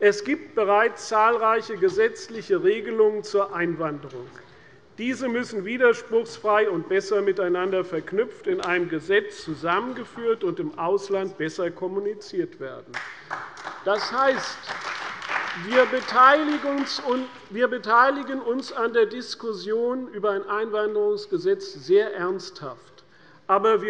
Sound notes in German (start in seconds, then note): 12.9 Beifall bei der CDU